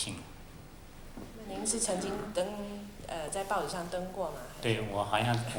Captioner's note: Mandarin